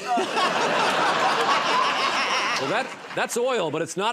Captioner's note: laughter